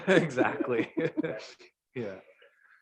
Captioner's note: all chuckling